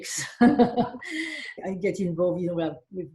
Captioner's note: laughing